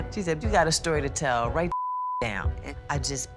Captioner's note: beep